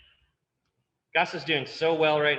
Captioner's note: clicking